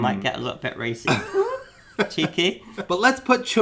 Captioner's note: laughing